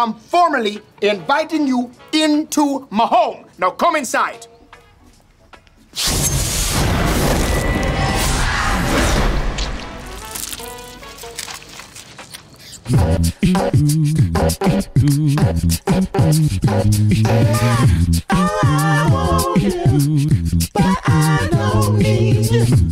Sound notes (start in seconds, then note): 6.1 dramatic music; 9.1 door slams; 10.1 blood gushing; 13.2 upbeat music